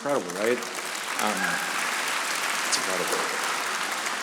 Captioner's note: audience applauding